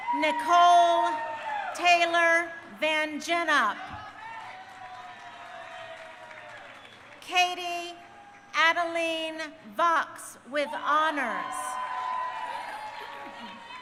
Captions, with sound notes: Nikole Taylor Van Gennep. (crowd cheering) Katie Adelene Vaux with honors. (crowd cheering)